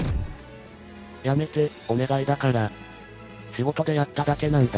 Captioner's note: bam!